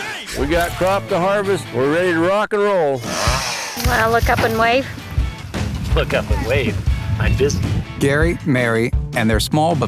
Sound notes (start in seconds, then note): 3.0 chainsaw buzzing